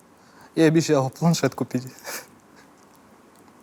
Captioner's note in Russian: смеется